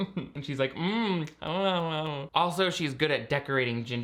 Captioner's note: chewing